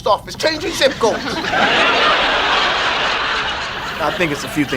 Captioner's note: audience laughs